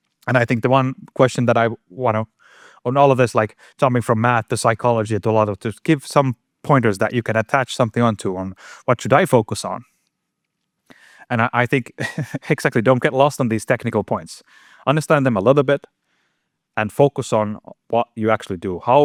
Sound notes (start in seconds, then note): 11.8 chuckles